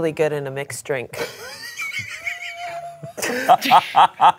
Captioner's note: laughs